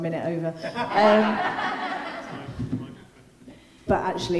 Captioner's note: group laughing